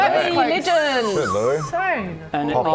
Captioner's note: whistles